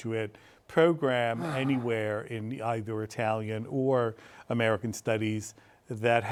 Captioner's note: sighs